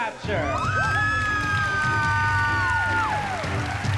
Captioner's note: cheering